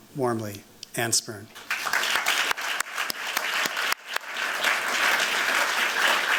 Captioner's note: applause